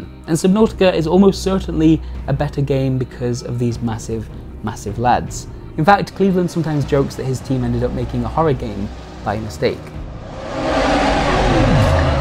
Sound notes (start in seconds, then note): 10.1 roaring